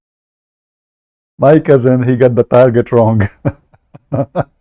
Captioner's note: Ketawa